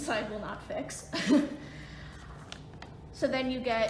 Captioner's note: laughs